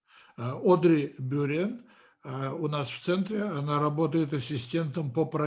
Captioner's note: translator speaking Russian language